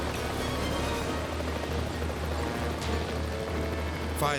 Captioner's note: propellers humming; suspenseful music